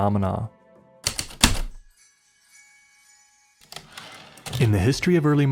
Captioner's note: heavy typewriter keystrokes, return slide